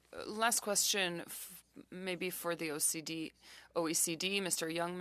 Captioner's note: speaking French